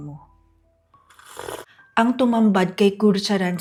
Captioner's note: coffee sound